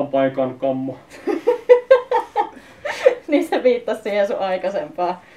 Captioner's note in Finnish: Nauraa